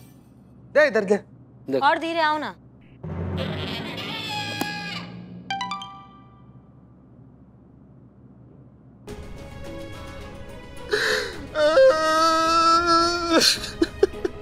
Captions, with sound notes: Give it to me. - No. - Can you walk any slower? [comical music] [phone chimes] [sobbing]